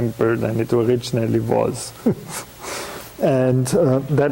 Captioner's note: chuckling